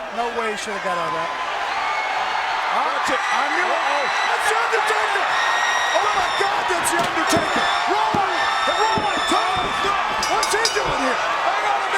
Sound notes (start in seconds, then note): 10.1 bell chimes